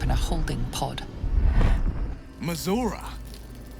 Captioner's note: Mind meld SFX ending boom